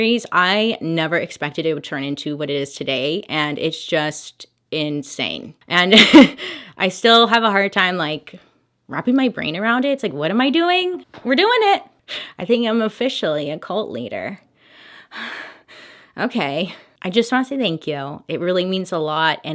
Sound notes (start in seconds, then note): 6.1 laughs; 14.5 deep breaths